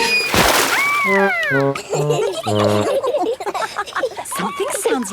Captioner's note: all laughing